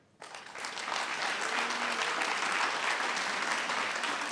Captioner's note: applauding